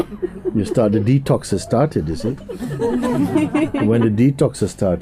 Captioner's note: laughter